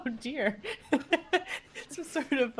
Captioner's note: laughing